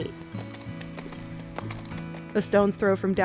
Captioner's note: horse hooves thudding